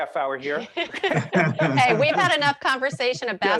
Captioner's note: laughing